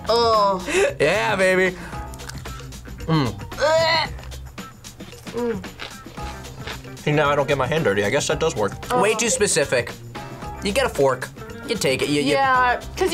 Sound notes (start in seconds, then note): 3.5 gags